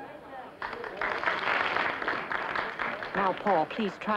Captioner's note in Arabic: الحشد يصفق